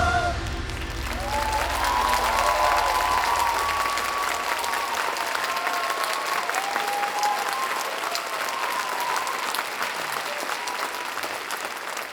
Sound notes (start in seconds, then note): 0.4 applause